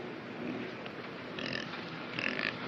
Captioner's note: oinks, squeals